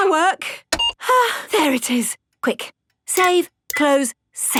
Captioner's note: sighs